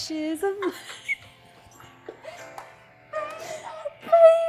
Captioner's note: laughing